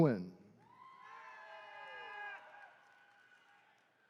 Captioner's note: attendees cheering